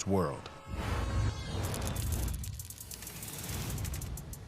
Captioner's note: horn blares